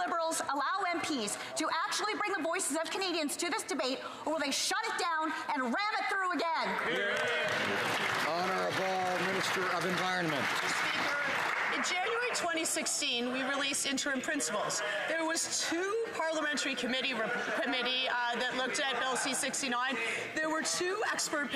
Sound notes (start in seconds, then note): 9.8 some Applause